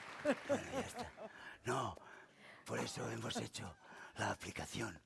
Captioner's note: speaking spanish